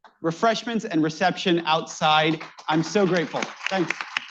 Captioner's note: applause